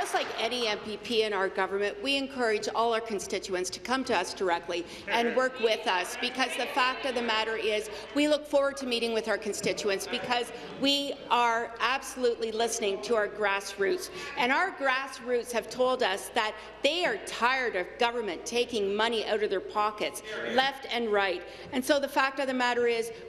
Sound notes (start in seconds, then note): 0.8 applause